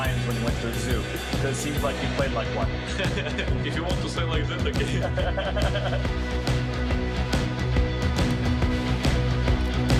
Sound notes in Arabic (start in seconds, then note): 2.9 يضحك; 4.8 يضحك المدرب